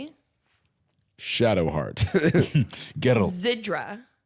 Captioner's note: chuckling